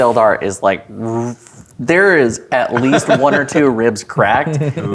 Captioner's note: laughing